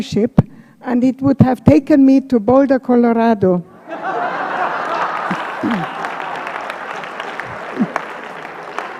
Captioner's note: laughter